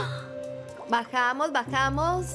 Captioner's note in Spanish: suspiros